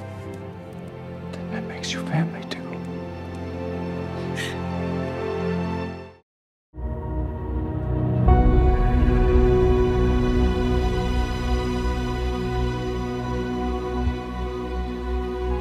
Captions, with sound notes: ...then that makes you family too. (gasping)